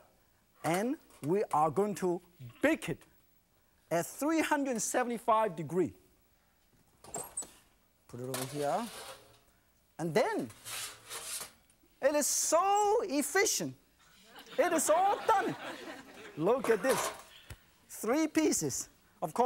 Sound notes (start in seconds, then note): 16.0 audience laughs